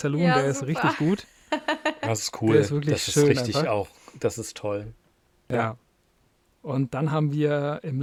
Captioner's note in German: gelächter